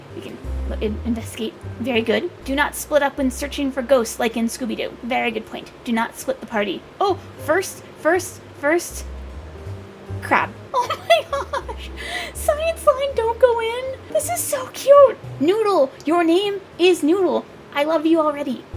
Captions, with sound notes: Okay, investigate... Very good. "Do not split up when searching for ghosts, like in Scooby Doo. Very good point. Do not split the party. Oh! First! First! First! Crab! Awww! [laughing] Oh my gosh! "Science line, don't go in"? This is so cute! Noodle! Your name is Noodle! I love you already!